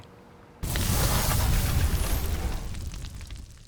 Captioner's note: flames crackle